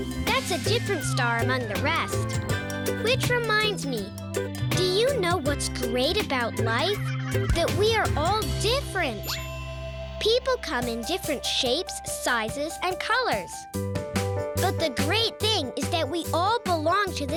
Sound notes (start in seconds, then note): 9.2 pinging sound; 13.8 piano music